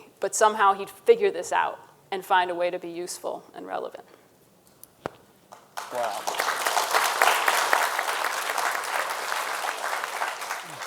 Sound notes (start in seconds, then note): 5.6 audience applauding